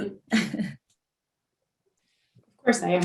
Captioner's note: chuckling